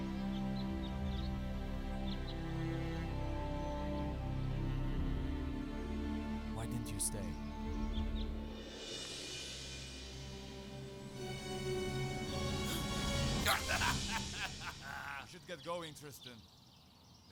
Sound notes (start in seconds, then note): 12.5 gasping; 13.3 man laughing